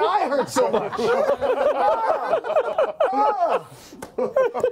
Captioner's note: laughter